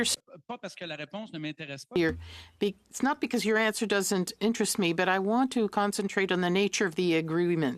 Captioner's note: speaking French